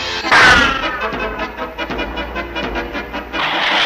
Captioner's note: crash!